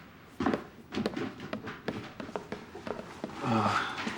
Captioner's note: footsteps departing